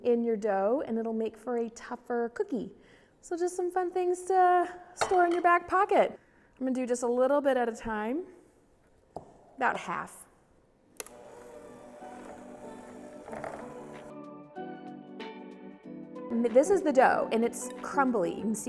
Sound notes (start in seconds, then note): 11.0 mixer whirring; 12.0 upbeat music